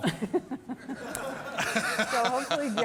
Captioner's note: laughter